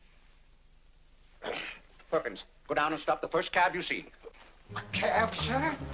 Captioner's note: grumbles